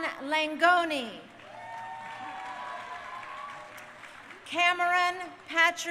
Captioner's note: crowd cheering